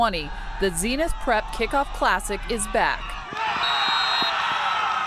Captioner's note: cheering